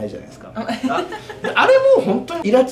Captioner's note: laughs